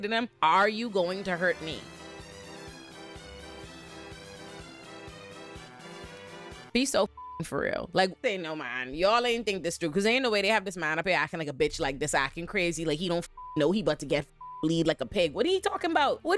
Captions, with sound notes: them, are you going to hurt me? (upbeat music) Be so (beep) for real. Like they know mine. Y'all ain't think this through cause they ain't the way they have this man up here acting like a bitch like this, acting crazy. Like he don't (beep) know he about to get (beep) bleed like a pig. What are you talking about?